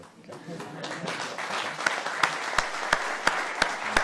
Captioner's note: applause